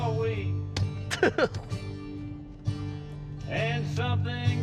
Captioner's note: giggling